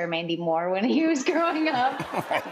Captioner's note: laughter